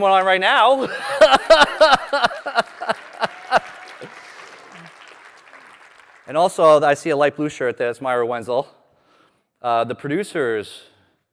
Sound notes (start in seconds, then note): 5.6 laughter